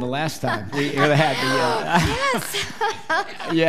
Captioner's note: laughing